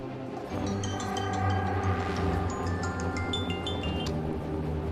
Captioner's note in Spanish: Suena celular